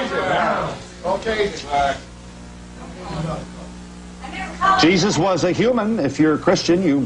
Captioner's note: audience yells out different answers